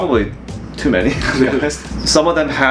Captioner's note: laughing